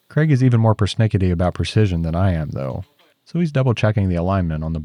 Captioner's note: none